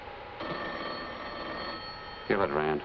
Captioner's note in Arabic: هاتف